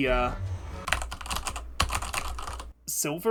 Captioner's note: typing